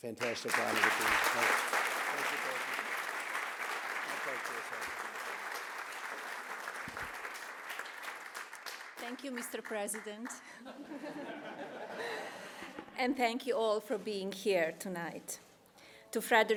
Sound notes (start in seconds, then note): 0.9 applause; 10.5 laughter